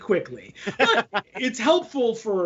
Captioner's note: laughing